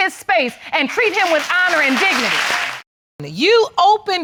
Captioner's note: audience applauding